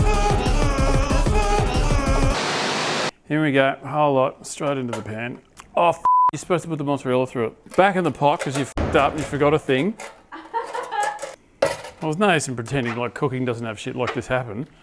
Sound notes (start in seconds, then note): 10.3 laughing